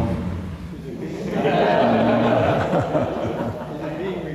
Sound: laughter

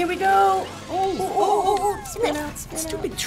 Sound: both muttering anxiously

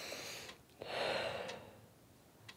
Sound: exhales deeply

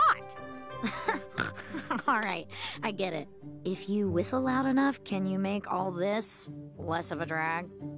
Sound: Eda laughs

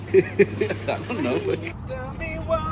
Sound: soft laughter

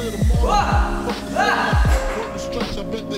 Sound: shouts

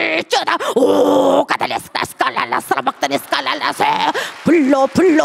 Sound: speaking in tongue

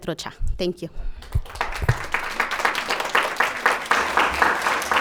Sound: audience applauding

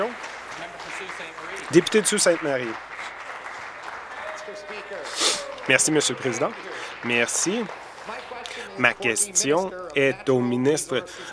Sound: applause

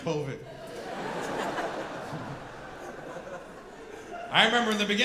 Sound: audience laughing

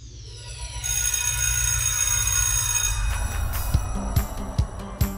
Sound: school bell rings; cheerful music

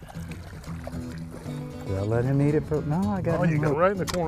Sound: splashing

